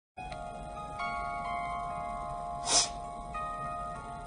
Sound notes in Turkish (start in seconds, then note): 2.6 Burun çekme